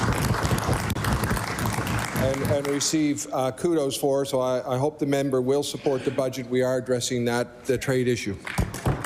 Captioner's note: applause